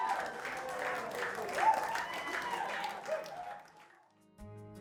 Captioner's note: crowd cheers